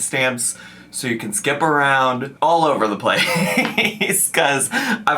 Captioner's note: laughs